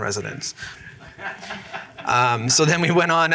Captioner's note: laughter